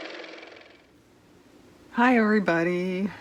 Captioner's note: car motor